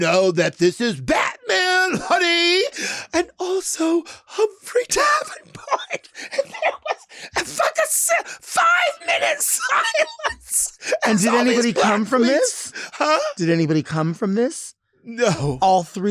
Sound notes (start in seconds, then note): 6.5 Lady Bunny laughs